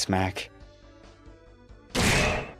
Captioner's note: clang